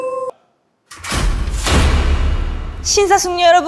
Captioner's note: the sound of the lights turning on